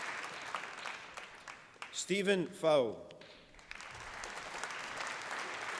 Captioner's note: applause